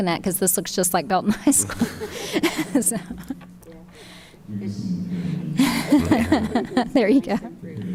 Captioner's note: chuckles